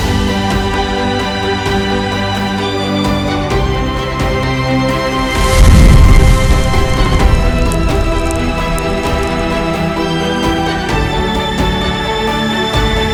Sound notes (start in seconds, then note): 7.2 fire crackles; 7.2 fire whooshes